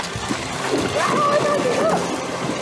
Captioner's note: water splashing